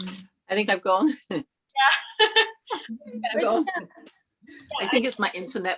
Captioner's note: giggling